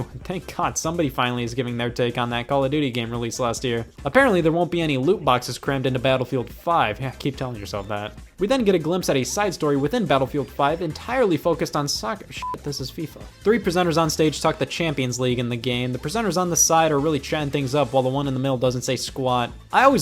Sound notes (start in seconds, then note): 12.4 beep